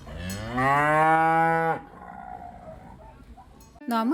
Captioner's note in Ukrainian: корова мичить